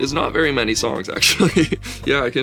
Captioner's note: laughs